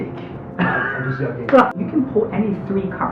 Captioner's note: laughter